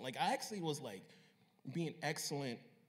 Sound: none

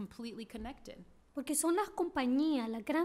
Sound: speaking spanish

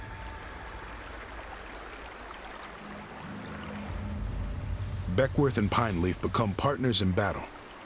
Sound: water streaming

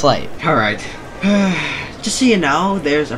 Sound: sigh

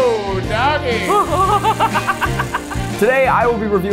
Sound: laughing

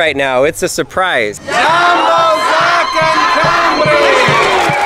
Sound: crowd cheering

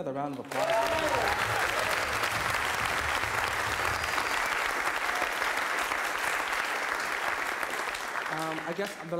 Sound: applause

